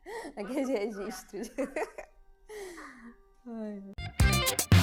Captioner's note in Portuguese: risos